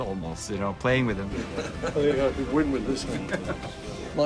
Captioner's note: chuckling